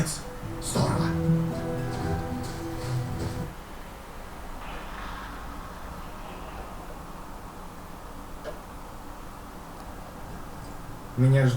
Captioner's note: movie playback